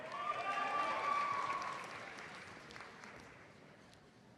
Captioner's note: audience applauds